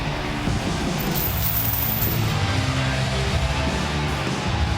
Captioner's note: chains jingling; rock music continues